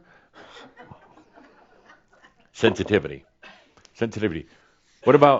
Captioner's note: a few chuckles